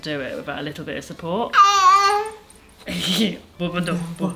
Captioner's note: giggles